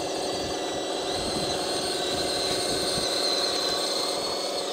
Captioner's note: bulldozer motor rumbling